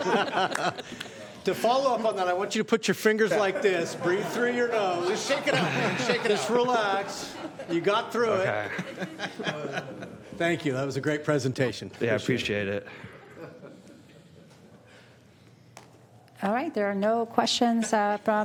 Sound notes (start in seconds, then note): 3.2 laughter